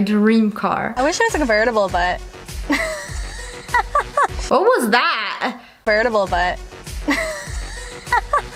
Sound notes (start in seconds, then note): 2.6 witch laugh; 7.0 witch laugh